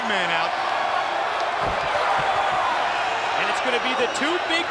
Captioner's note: applause